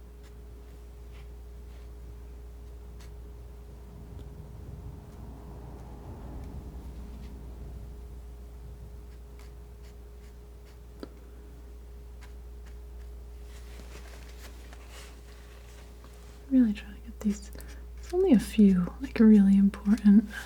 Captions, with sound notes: [scratching] Really trying to get these, only a few, like are really important